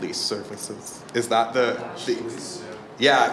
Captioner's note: replies in faint voice